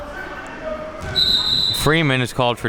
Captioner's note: whistle blowing